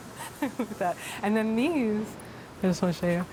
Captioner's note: laughs